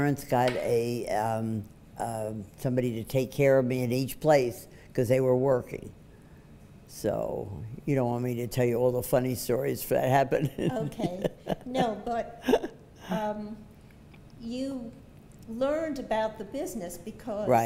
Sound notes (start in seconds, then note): 10.4 laughs